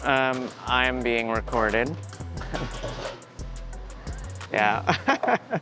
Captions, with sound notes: Um, I'm being recorded. Yeah. [laughing]